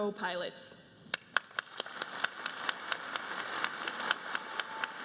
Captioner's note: applause